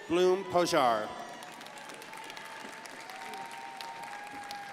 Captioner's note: crowd applauding